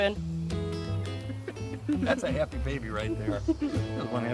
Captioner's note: laughing